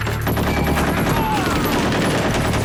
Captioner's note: all exclaim